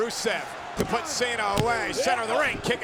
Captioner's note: hands thudding